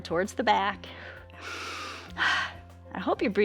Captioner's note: inhales and exhales